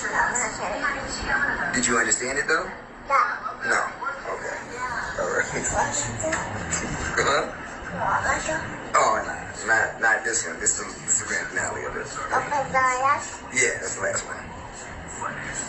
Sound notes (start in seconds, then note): 4.3 babbles in questioning tone; 5.0 chuckles; 12.9 points at TV and babbles